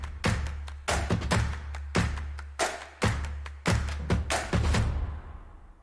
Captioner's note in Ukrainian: оплески